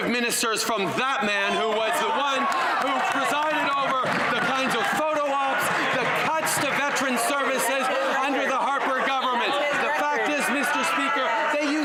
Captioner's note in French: voix de l'interprète